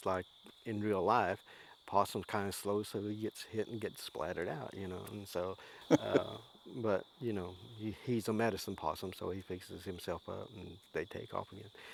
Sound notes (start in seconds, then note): 5.8 laughs